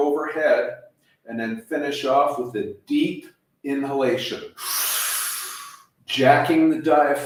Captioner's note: inhaling